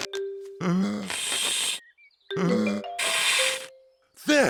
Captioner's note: blowing deeply